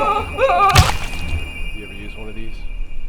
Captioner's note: Richie shouting; hammer squelches